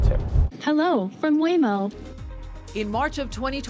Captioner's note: automated voice in car